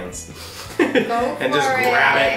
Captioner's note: laughs